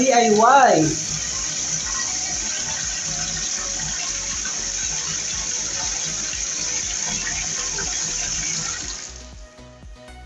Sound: water splashing

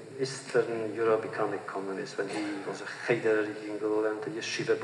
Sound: foreign language

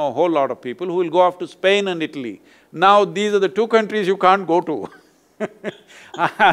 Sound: laughs

